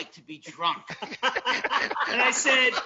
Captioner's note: laugh